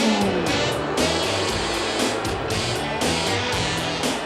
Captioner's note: audience jeers